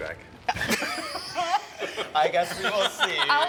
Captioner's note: all chuckling